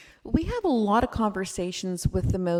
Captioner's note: none